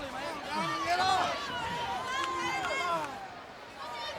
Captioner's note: crowd cheering